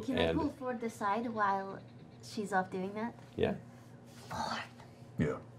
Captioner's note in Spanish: none